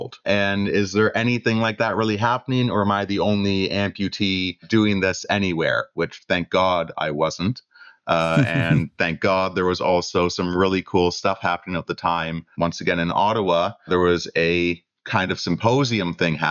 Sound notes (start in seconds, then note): 8.0 laughter